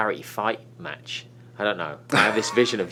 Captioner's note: Byron laughs